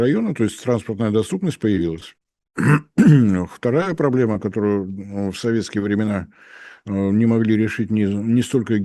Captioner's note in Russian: откашливается